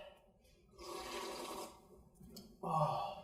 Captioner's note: slurping